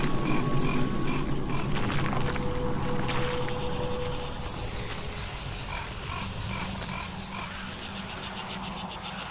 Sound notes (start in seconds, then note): 0.0 pensive music continues; 3.7 insects trilling